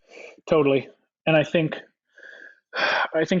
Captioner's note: sighs